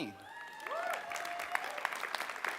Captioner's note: cheers, applause